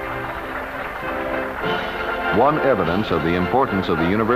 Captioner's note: applause